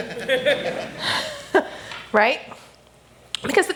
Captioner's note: laughter